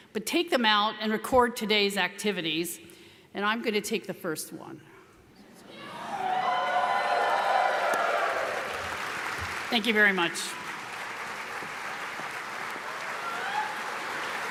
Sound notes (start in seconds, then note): 5.7 audience cheering; 11.2 audience applauding